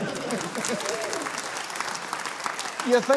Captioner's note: cheering, applause